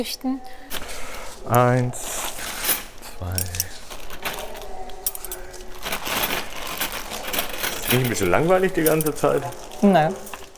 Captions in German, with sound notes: Wenn Sie zählen möchten. - Eins, zwei ... (Klappern) Ist nicht ein bisschen langweilig die ganze Zeit?